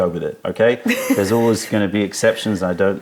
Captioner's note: laughter